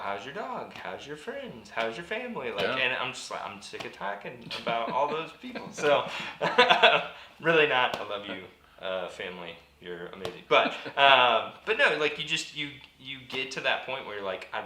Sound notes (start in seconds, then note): 4.3 laughs